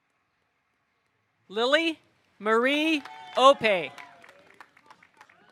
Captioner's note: audience cheering; audience applauding